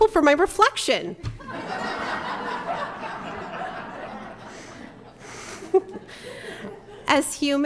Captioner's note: laughter